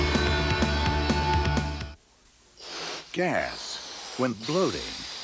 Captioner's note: none